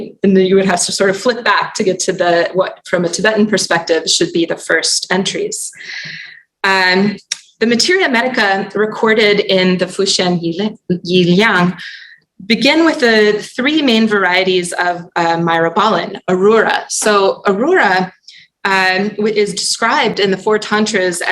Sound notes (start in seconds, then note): 10.8 non-english